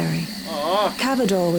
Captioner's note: sighs, disappointed